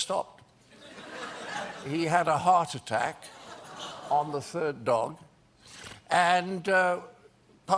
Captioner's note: laughter